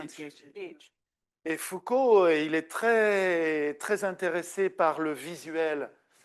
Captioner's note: speaking French